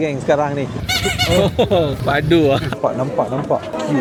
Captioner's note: honk